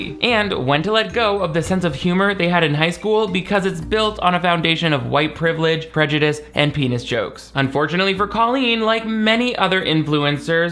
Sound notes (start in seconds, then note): none